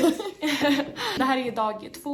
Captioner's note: both laughing